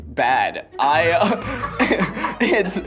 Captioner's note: laughter